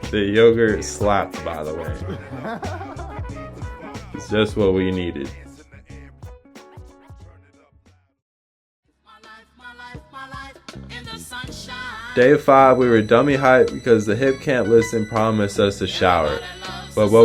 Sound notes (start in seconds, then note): 6.0 laughs; 9.8 uplifting Soul Music